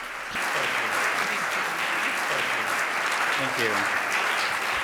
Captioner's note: audience applauds